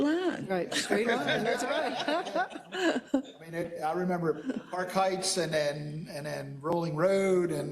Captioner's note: laugh